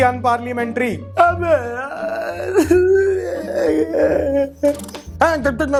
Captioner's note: crying